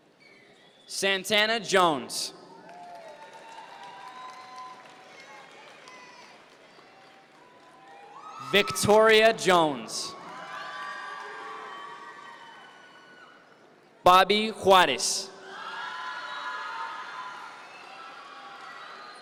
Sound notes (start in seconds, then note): 2.5 audience members cheer; 10.5 audience members cheer; 15.4 audience members cheer